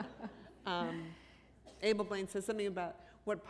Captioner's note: laughter